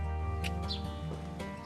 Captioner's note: lips click